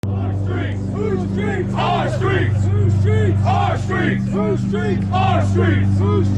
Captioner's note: chanting